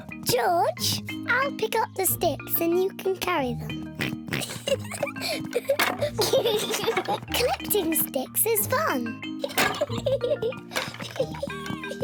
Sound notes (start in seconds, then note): 4.3 both giggling; 9.4 laughs